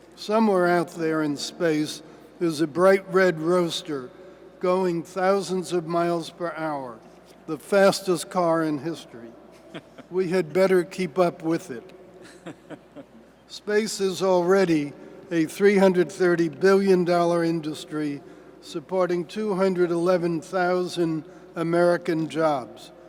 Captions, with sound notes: Somewhere out there in space, there is a bright red roadster going thousands of miles per hour, the fastest car in history. (Laughter.) We had better keep up with it. (Laughter.) Space is already a $330 billion industry, supporting 211,000 American jobs.